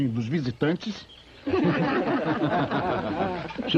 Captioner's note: laughter